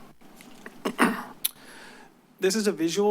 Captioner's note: clears throat